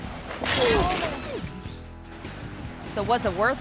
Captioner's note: fence rattles